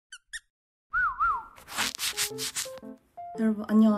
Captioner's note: rub